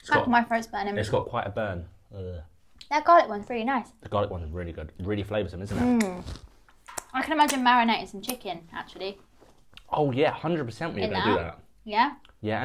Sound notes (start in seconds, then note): 2.1 moans